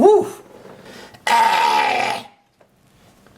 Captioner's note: screeches